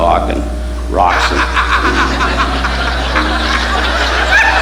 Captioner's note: audience laughing